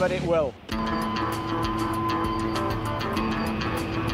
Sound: machine humming

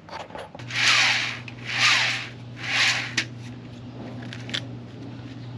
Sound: wheel spinning

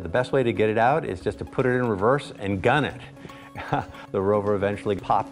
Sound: laughs

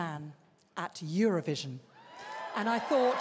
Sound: cheering, applause

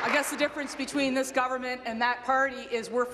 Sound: applause

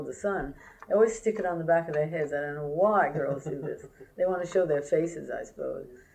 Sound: laughter

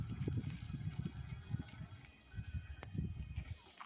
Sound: motor sound

